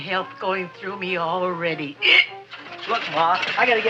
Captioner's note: hiccups